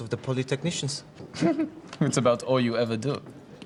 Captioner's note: <i> chuckles</i>